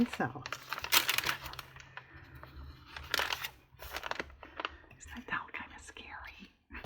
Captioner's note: whispers